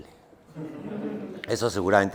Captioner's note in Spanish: Risas